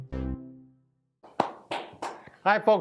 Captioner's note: claps